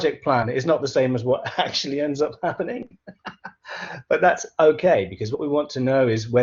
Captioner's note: laughs